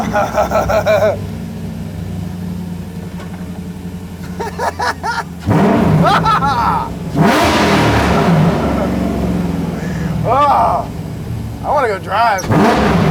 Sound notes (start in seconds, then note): 0.0 engine roaring; 0.0 laughs; 5.6 engine roaring